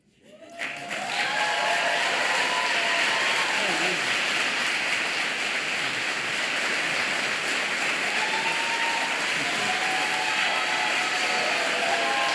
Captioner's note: applause